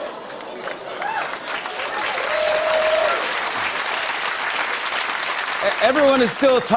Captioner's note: cheers and applause